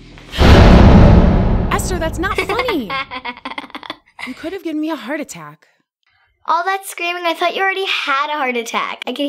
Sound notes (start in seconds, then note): 2.5 Esther laughing